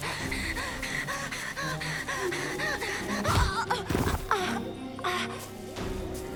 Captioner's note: Mischa breaths heavily; suspense music